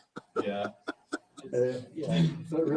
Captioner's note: laughter